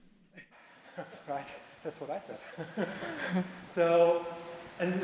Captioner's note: laughs